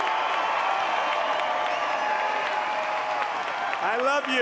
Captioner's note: cheering and applause